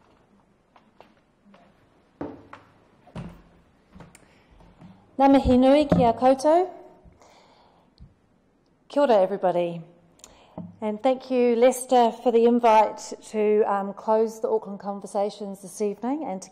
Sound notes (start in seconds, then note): 5.2 foreign language